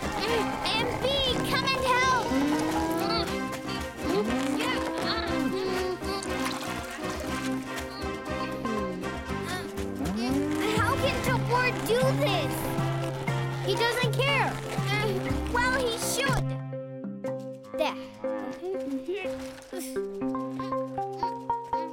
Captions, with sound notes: MB, come and help! - Hm? (grunting) (sighs) - How could Tobor do this? - He doesn't care. (grunting) - Well, he should! There. (grunting) (playful music)